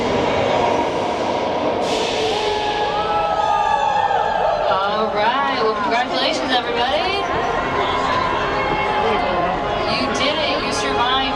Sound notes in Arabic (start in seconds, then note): 1.9 ناس يهتفون; 1.9 هواء ينفخ; 7.4 الناس يهتفون